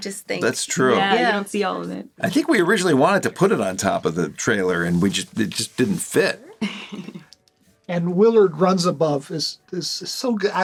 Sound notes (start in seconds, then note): 6.6 chuckles